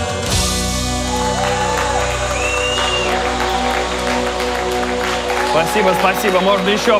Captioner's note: applause